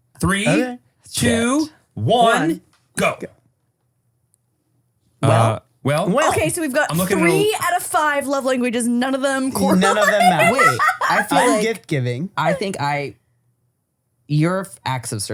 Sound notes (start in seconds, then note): 9.5 laughs